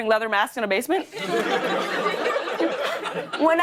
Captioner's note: laughter